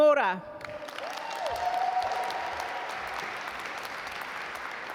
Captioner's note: audience applaud